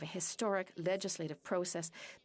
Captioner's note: speaking French